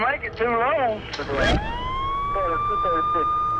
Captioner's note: siren wails